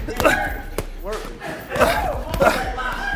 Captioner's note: people chattering